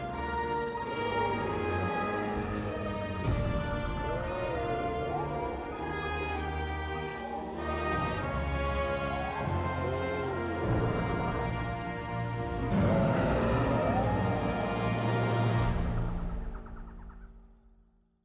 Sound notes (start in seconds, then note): 12.5 dinosaur roars; 15.9 birds chirping